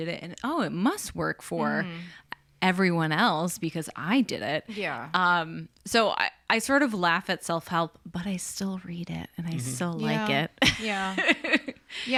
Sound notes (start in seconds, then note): 10.3 laughs